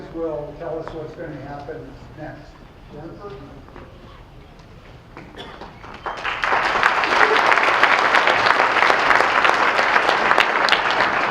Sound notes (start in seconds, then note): 5.6 clapping